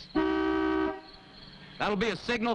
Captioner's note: car horn honking